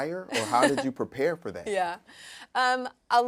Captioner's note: laughing